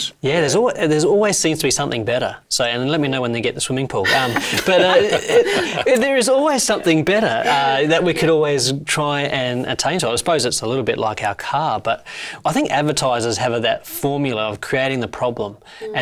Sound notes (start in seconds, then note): 4.0 Noel and Celia laughing